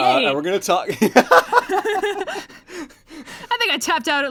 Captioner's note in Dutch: Lachen